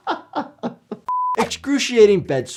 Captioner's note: laughing; screen beeping